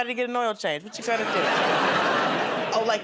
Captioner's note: laughter